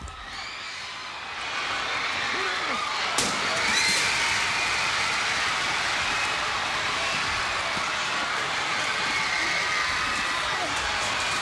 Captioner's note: crowd cheering; crowd chatter